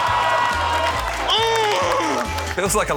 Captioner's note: audience shouts; grunts in frustration